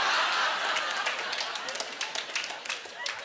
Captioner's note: audience laughter